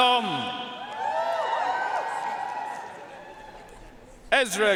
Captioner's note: audience cheering and applauding